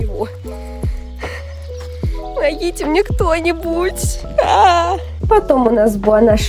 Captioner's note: sigh